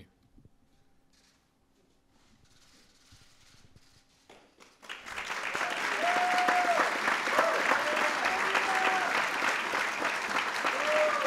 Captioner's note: applause